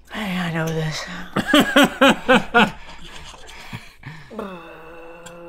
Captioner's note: Rhett laughs